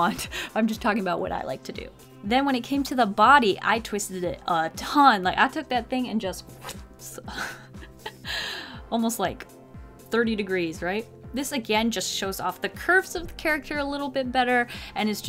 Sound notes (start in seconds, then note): 7.0 mouth twist sound